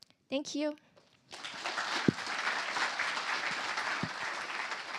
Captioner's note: applause